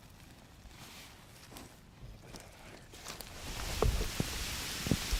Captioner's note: bag rustling; footsteps crunching; rain falling